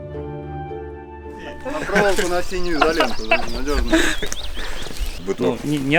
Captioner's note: laugh